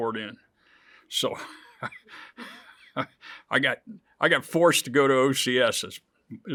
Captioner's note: chuckles